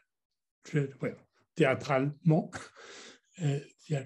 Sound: french words

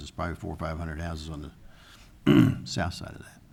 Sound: clears throat

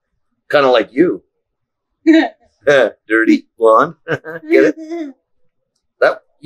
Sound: sarcastic

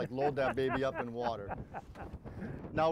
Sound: man laughs

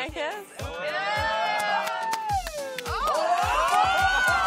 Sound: cheering

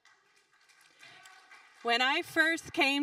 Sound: audience applauding

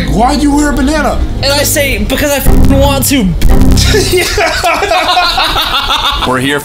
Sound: loud laughing

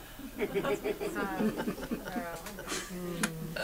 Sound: audience laughs

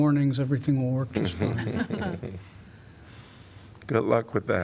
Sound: laughter

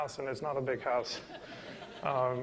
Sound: laughter

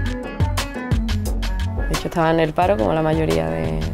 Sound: speaking spanish

